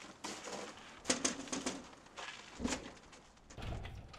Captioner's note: door knocking